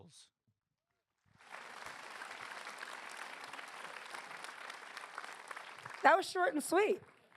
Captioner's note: applause